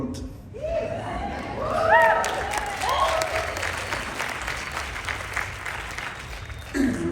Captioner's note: applause, Cheering